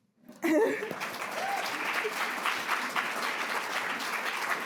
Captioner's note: audience applauds